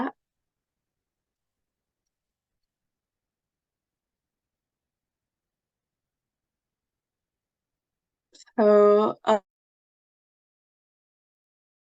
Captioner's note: silence